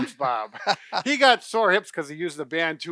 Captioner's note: laughing